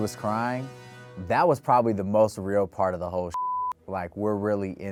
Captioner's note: beep